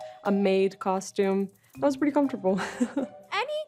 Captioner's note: chuckles